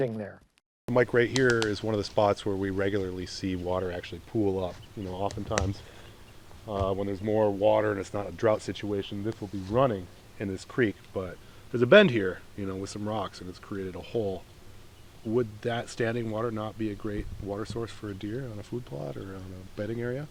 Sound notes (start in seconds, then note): 1.2 twigs snap